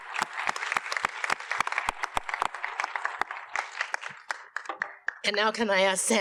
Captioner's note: audience applauds